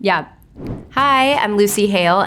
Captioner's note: air whooshing